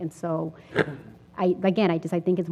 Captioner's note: cough